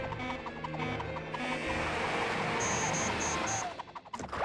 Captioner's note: beeping; beeps accelerating